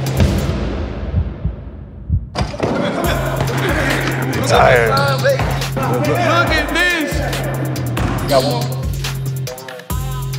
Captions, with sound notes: (participants chattering) - Tired - He got one more.